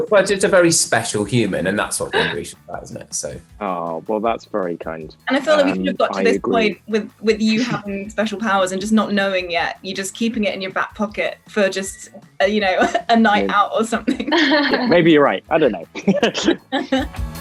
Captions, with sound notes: - But Kit's a very special human, and that's what Grisha have, isn't it? So- - Aw, well that's very kind. - And I feel like we could've got to this point with you having special powers, and just not knowing yet. You're just keeping it in your back pocket for just, you know, a night out or something. (Amita laughs) - Maybe you're right! I don't know. (all laughing)